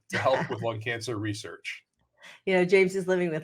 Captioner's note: laughs